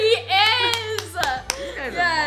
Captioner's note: claps